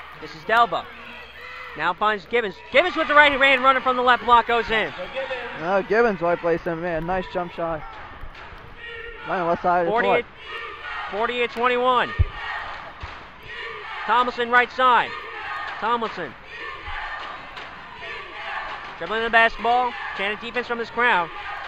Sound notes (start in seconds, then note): 17.4 crowd chanting